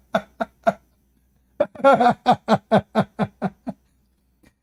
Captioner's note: Ketawa